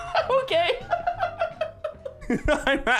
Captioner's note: laughs